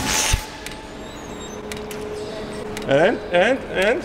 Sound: laughing

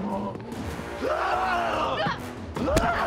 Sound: screaming

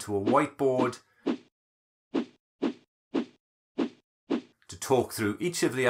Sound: whooshing sound

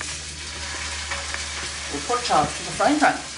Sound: oil is sizzling in the pan

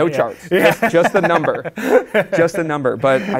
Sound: laughs

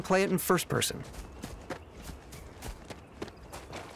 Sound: ground crunching underfoot

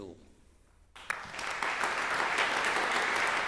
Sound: applause

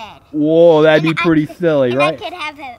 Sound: voiceover

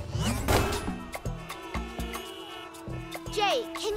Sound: honking

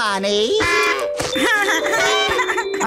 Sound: giggling

